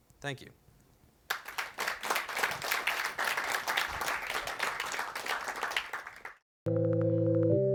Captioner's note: applause